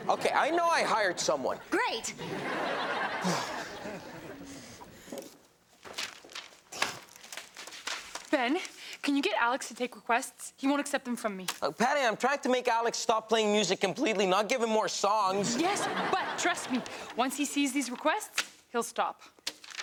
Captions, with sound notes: - Okay. I know I hired someone. - Great. (audience laughs) - Ben, can you get Alex to take requests? He won't accept them from me. - Patty. I'm trying to make Alex stop playing music completely. Not give him more songs. (audience laughs) - Yes, But trust me, once he sees these requests, he'll stop.